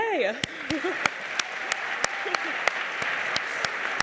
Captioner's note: audience applauds